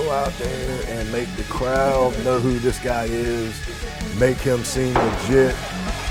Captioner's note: thud; rock music playing